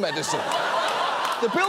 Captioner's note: audience laughing